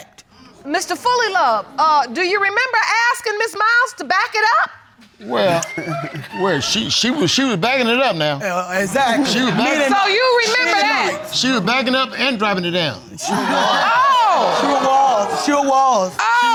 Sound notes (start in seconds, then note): 5.3 stutters; 13.2 audience exclaiming